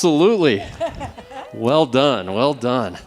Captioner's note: laughing